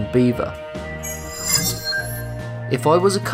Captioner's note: sharp chiming